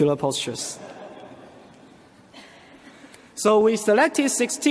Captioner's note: audience laughs